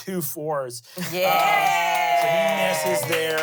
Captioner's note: everyone cheers